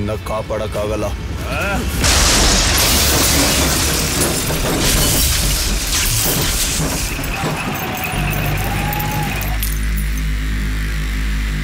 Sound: breaking Glasses

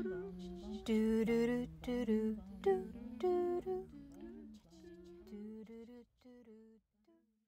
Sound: most voices fade out

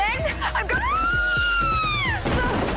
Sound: screaming

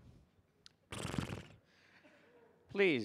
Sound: neighs

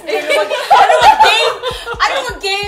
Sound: laughter

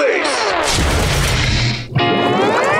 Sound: thudding

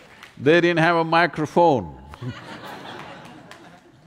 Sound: laughter

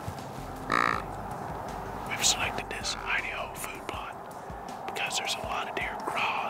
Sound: whispering

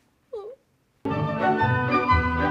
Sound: whimpers; playful music

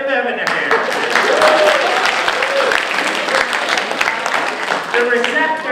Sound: applause

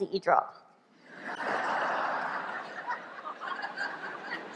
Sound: laughter

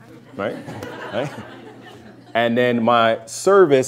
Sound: laughter

